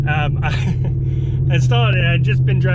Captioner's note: chuckles